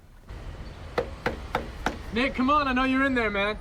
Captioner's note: knocking